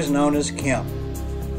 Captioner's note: none